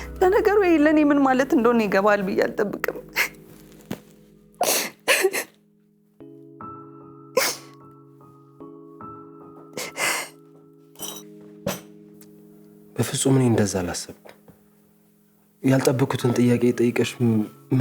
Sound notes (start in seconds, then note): 3.2 crying